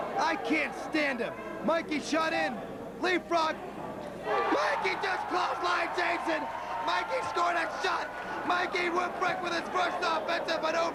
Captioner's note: crowd cheering